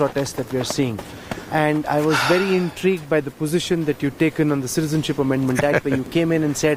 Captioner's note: Sadhguru laughs